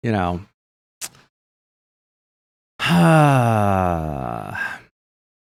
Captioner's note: sighs